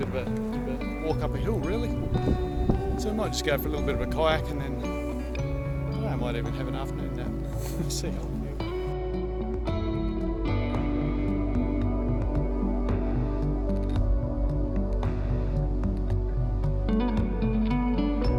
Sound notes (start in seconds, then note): 8.1 chuckles; 9.8 relaxing music